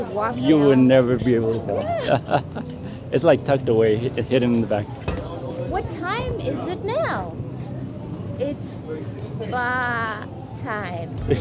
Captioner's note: laughter